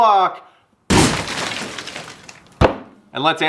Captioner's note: exploding noise